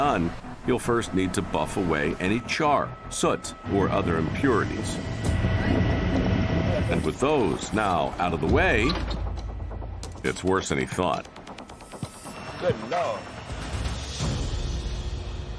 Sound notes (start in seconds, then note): 5.0 machine whirring; 5.0 tense music; 13.4 tense music